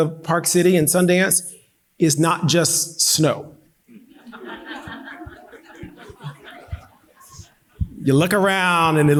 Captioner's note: audience laughing